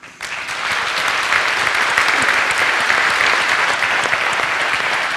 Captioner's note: audience applauds extensively